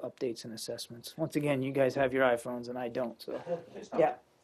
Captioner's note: laughter